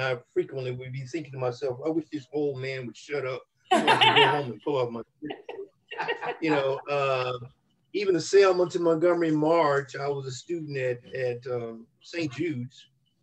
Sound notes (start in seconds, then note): 3.7 laughter